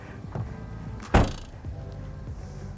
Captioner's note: fifth door thuds